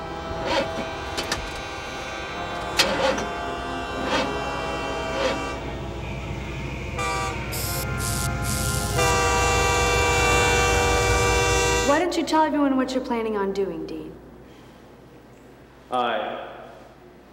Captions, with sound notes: (car cranking) (train hooting) - Why don't you tell everyone what you're planning on doing, Dean? - Hi.